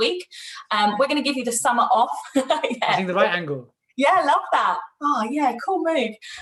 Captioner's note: laughs